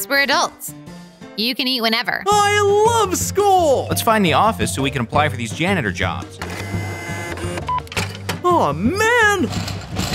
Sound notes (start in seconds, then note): 6.4 machine whirs; 9.3 vending machine rattling